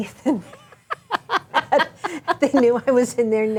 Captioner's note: laughs; chuckles; laughs